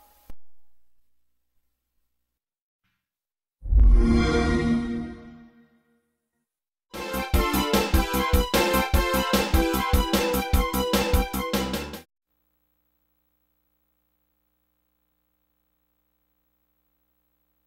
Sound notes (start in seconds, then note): 3.6 epic digital synth chord plays; 6.9 digitally-remastered video game music; 12.7 silence